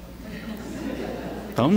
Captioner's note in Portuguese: risadas